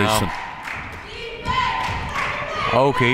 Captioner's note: cheering